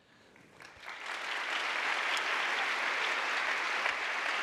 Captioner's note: audience applauding